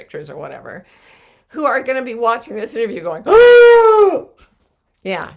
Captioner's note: shrieking